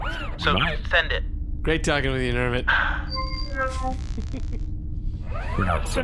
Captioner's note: Nermut sighs